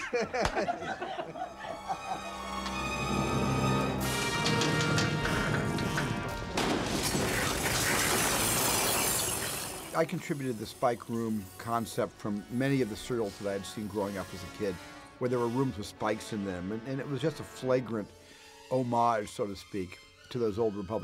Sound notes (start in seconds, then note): 0.6 crew laughing; 3.8 rumbling; 5.6 rumbling and hissing